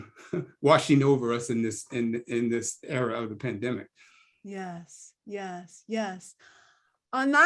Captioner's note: laugh